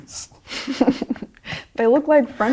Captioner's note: both laughing